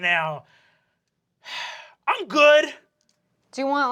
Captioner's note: sighing